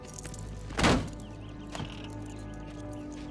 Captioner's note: door thuds; suspenseful music continues